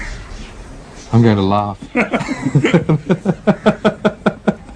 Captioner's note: laughter